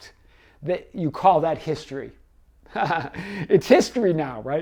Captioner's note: laughs